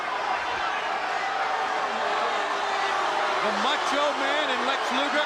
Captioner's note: crowd cheering